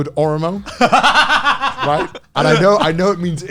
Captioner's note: laughing